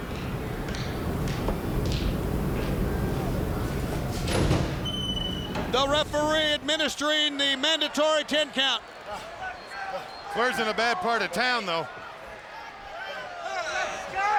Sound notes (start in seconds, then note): 0.0 feet shuffling; 3.2 door creaking